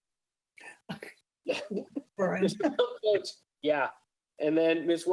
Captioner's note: chuckles